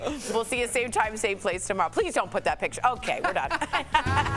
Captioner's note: laughter